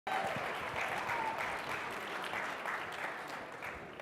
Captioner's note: applause